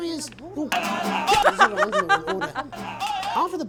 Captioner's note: laughs